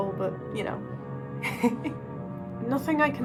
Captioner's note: laughs